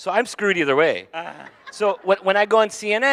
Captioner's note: audience laughing